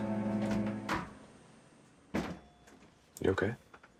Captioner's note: door opening and closing